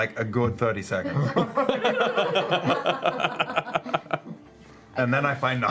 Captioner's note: laughter